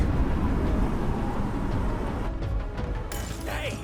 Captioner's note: wind howling; glass shattering